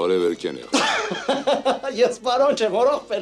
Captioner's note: haha